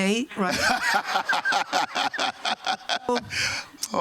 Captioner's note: chuckles